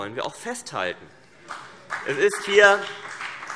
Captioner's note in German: Beifall CDU und BÜNDNIS 90/DIE GRÜNEN